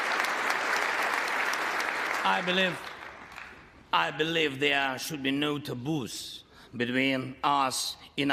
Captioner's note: applause